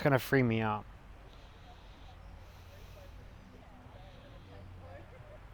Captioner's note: people chattering